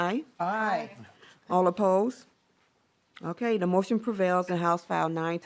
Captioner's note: chorus of ayes